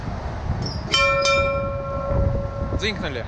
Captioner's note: bell ringing